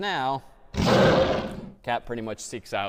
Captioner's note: roars